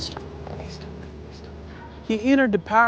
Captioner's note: whispering